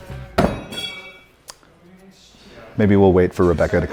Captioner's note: knife thudding